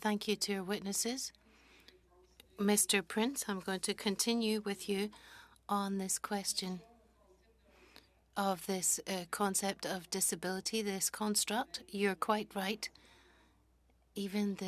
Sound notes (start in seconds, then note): 2.5 speaking French